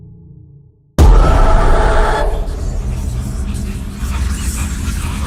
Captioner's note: ghostly whispering